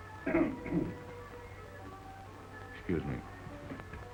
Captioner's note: Carlos clears throat